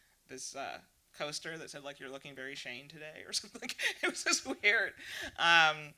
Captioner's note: laughs